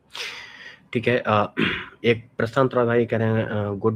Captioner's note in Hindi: गला साफ़ करने की आवाज़